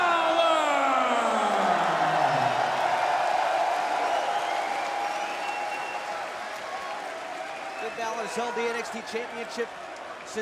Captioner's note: crowd cheering